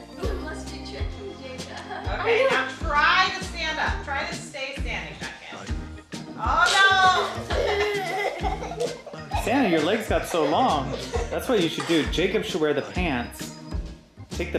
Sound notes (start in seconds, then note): 0.0 laughs; 7.2 laughing